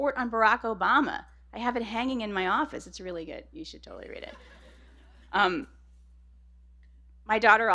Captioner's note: laughter